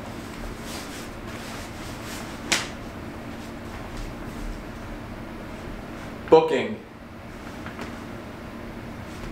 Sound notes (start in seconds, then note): 0.1 pants Sliding